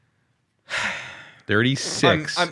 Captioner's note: sighing